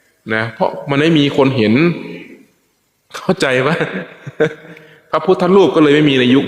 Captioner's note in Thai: เสียงหัวเราะ